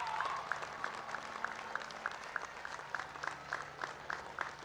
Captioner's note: applause